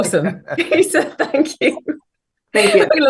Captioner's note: laughs